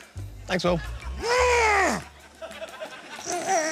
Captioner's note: growls like a weightlifter